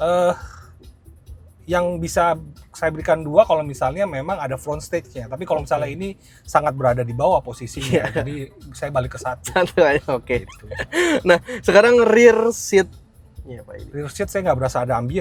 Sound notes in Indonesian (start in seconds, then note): 10.3 tertawa